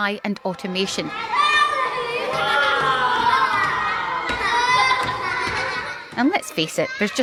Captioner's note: crowd cheering